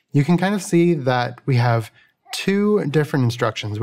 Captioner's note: none